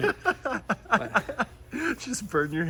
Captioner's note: laughing